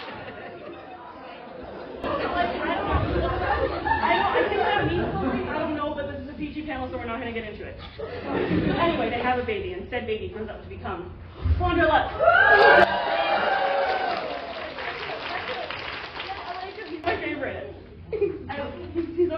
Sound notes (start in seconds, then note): 1.8 laughter; 12.1 cheering